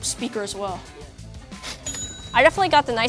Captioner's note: cash register dings